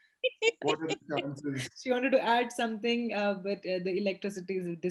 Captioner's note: laughs